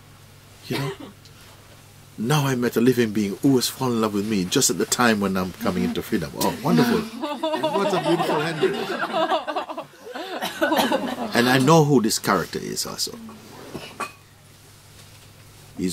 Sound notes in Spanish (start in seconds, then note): 9.0 risas